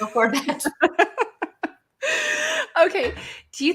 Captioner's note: laughs